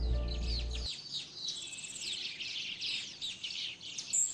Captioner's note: birds chirping